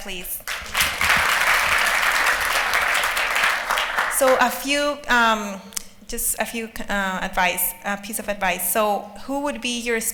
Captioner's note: applause